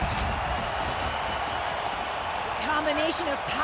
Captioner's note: crowd cheering